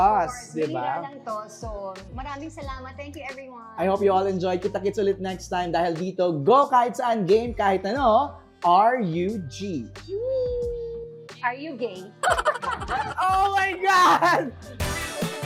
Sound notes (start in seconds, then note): 12.2 laughs; 14.6 theme music playing